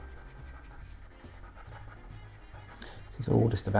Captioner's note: pencil scratching